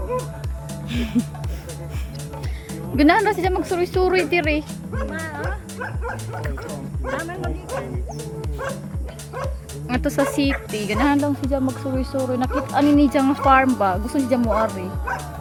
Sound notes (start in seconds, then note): 3.1 speaks Bisaya language